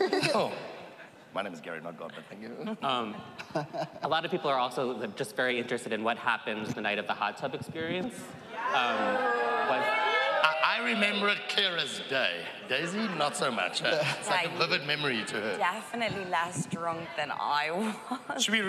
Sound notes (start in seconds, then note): 8.5 audience hooting